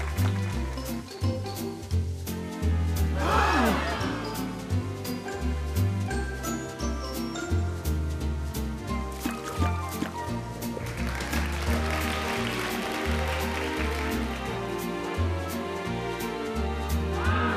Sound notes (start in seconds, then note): 10.7 applause